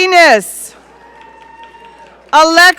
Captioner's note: audience cheering